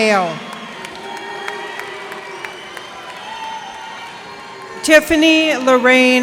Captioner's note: cheers and applause